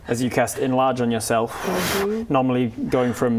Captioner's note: inflates